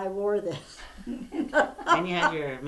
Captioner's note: laughter